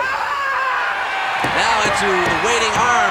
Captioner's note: audience cheering